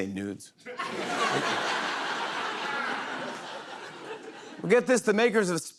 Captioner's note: laughter